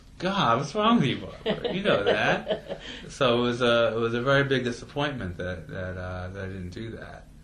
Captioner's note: laughs